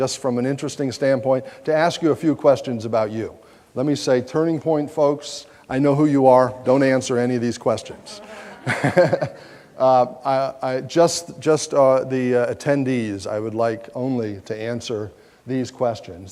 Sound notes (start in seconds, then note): 8.1 laughs